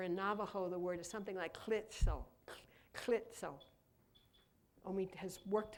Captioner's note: speaking in Navajo